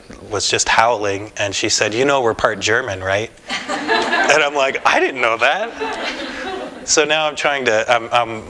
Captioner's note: laughter